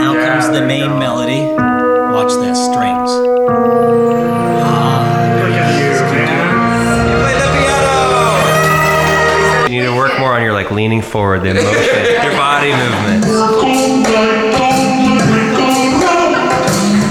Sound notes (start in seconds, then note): 3.6 chimes tinkle; 8.8 cheering; 8.8 video game power up